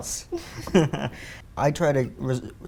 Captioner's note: laughter